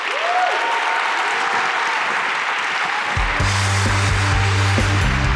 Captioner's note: audience applauding and cheering; upbeat music